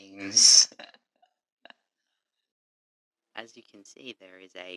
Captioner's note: laughing